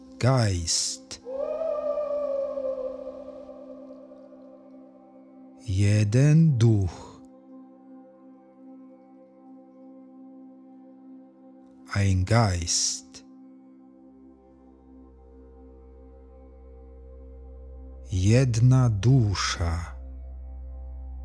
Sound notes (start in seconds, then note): 7.7 german